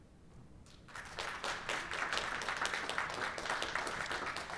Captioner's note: applause